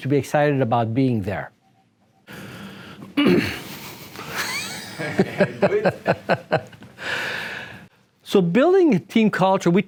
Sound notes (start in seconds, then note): 3.5 laughter